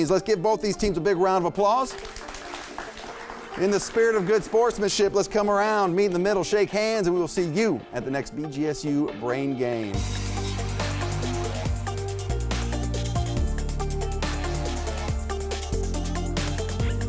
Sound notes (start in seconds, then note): 1.8 audience clapping; 10.1 upbeat music